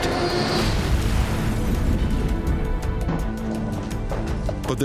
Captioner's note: aircraft exploding